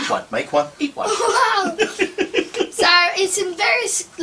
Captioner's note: both laughs